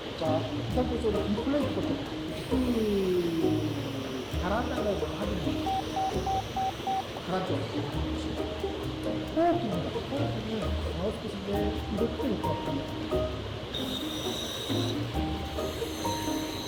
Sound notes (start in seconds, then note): 2.0 ssssssssssssssssss